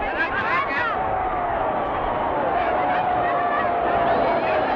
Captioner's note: crowd cheering